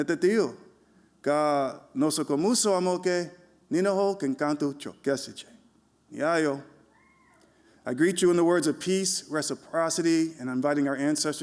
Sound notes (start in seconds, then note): none